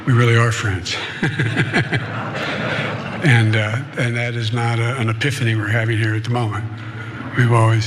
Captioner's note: laugh